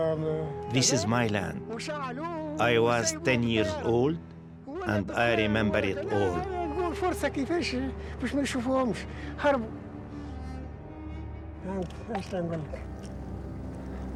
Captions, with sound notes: This is my land. I was 10 years old and I remember it all. (speaking in foreign language)